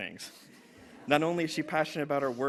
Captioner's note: laughter